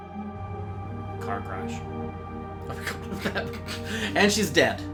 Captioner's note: both laughing